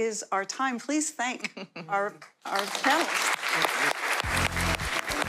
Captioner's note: applause; outro instrumental music